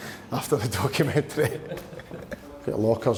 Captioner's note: laughs